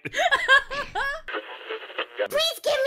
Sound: radio tuning noise

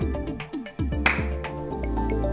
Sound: clap

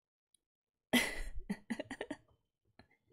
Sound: laughs

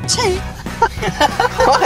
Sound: laughter

